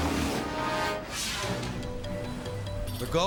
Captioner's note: graphics whooshing; pensive music